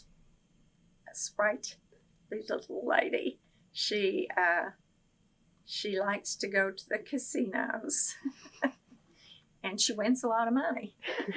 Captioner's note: laughs